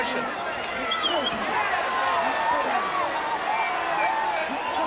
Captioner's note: crowd chattering